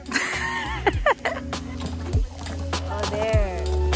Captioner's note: laughing